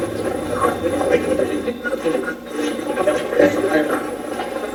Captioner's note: Steve's Box chatters